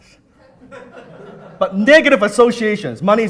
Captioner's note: laughing